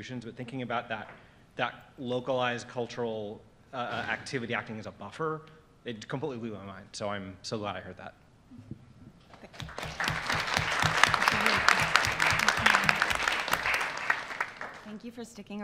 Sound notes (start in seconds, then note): 9.5 applause